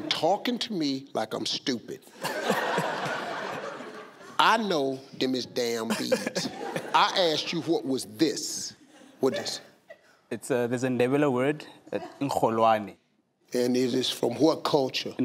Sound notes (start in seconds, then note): 2.1 audience laughing; 5.9 laughing; 11.5 speaks foreign language